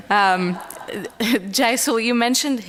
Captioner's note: laughter